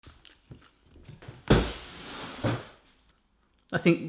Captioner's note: cardboard falling